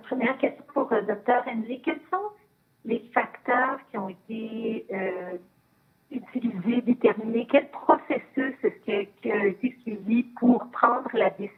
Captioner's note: speaking French